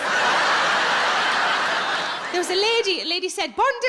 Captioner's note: audience laughs